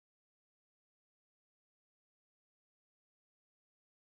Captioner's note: none